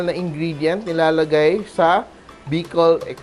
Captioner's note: sizzle